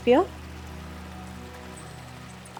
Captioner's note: water gurgling continues